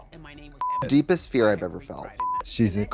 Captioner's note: beep